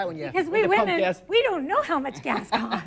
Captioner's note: laughs